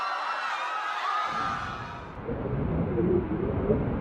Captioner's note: people screaming